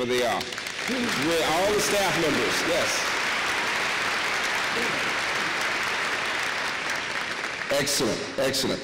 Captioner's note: applause